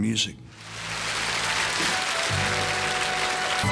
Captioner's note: crowd applause